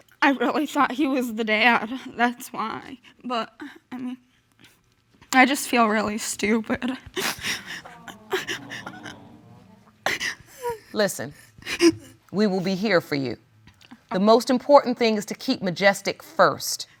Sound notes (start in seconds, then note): 7.1 sniffling; 9.7 cries